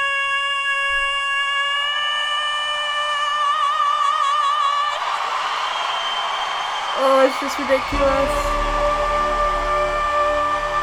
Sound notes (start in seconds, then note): 3.6 audience cheers